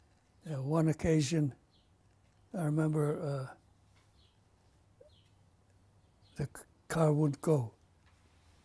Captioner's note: pauses for 3 seconds